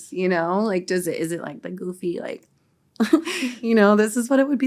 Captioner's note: chuckles